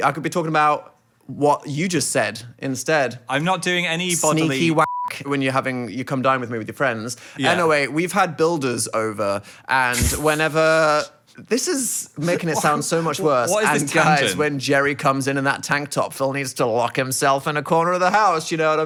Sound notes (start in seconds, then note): 4.8 beep